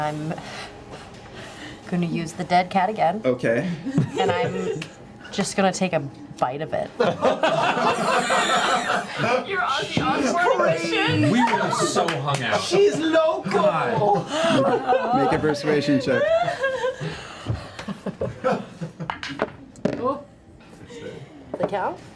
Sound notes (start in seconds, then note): 7.0 laughter